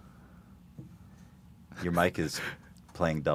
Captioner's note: laughs